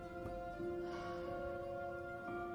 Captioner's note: exhales